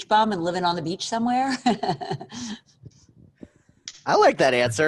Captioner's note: laughs